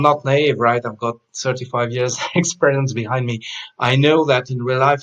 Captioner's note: chuckles